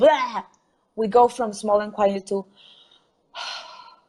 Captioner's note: exhales